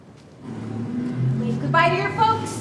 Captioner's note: car engine starts